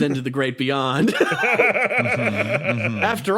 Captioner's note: laughs